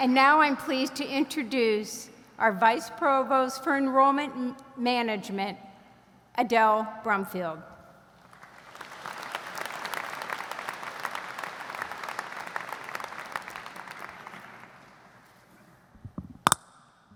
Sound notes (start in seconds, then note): 8.2 audience applauds